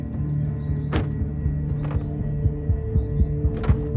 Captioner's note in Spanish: Sonido al cerrar la puerta